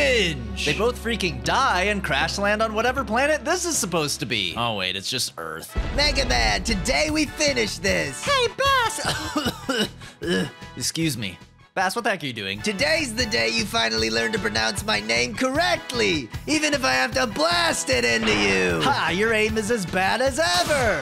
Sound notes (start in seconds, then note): 8.9 cough cough